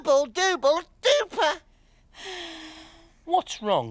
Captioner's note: Tula sighs